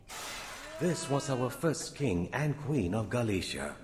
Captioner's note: crashing sound